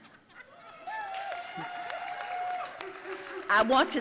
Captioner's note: audience cheering and applauding